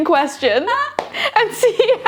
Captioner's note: laughing